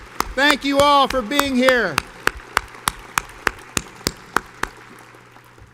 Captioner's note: audience applauds